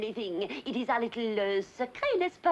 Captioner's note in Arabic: يتحدث بلغة أجنبية